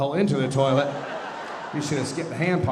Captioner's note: audience laughing